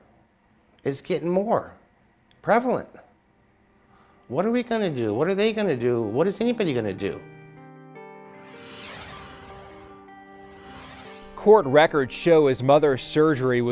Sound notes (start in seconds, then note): 7.1 pensive music; 8.6 air whooshing